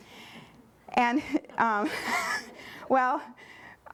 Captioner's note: laughter